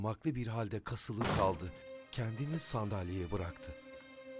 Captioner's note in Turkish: Kapı kapanma sesi